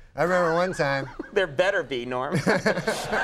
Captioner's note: laughs